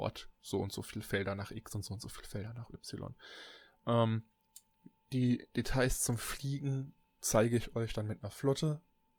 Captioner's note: ehm